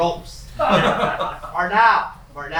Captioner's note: laughter